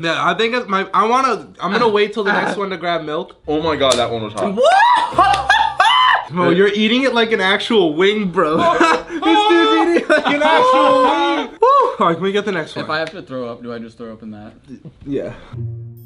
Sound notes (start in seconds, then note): 4.9 hollering; 8.4 laughter